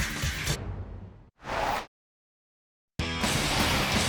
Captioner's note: upbeat music; logo swooshing; upbeat music